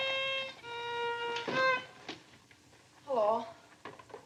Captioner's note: door shuts